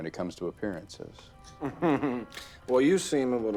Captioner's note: giggling